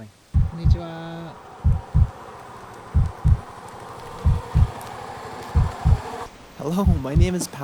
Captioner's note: heartbeat